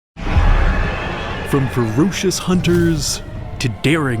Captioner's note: roar